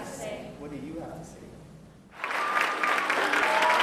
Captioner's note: applause